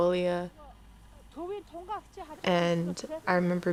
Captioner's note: woman speaks foreign language